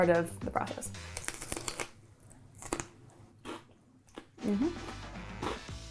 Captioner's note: snack crunches